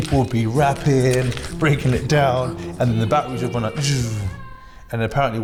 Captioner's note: imitates music fading out